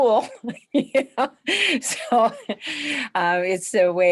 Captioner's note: laughing